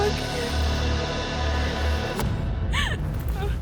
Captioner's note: weeping